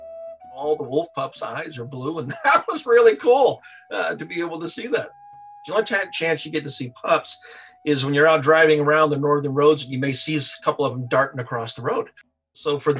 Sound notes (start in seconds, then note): 2.2 laughing